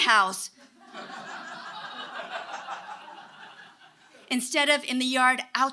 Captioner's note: audience laughing